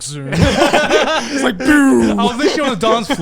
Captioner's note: all laughing loudly